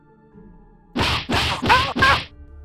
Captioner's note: punching